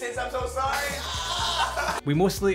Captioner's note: cries